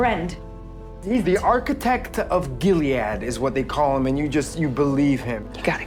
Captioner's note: voiceover